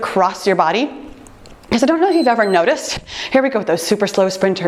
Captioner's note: timer beeps